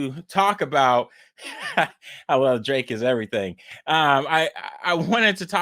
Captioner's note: laughs